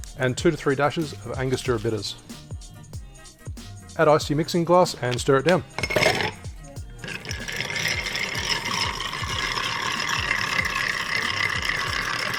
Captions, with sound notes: and two to three dashes of Angostura Bitters. Add ice to your mixing glass and stir it down. (ice stirring)